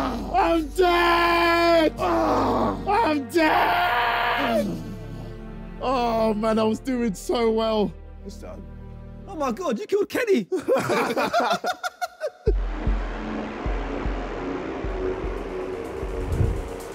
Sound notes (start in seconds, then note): 2.1 moaning loudly; 10.5 laughing